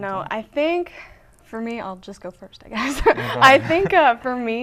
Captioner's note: laughing